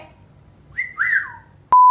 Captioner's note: whistling